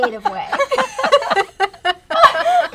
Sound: laughter

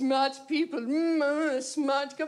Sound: pompous noises

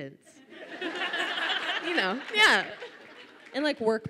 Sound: audience laughs

